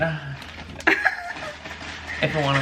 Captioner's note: laughs